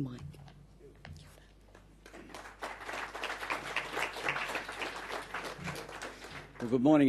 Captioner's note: audience applause